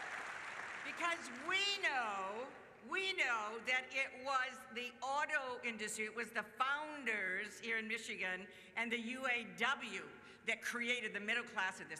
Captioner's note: cheers